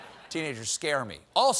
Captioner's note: laughter